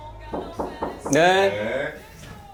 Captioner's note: knock, knock